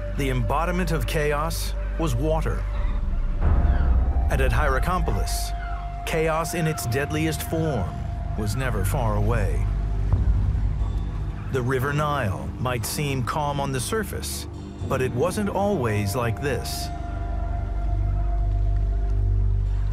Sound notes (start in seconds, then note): 2.9 gentle suspenseful music; 10.0 birds chirp; 10.0 gentle suspenseful music; 17.0 birds chirp; 17.0 gentle suspenseful music